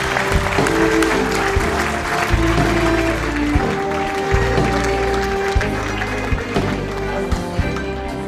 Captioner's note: applause